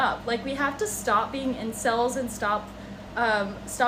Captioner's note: none